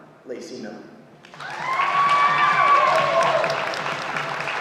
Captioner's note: audience applauding